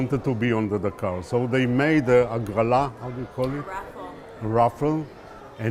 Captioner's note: hebrew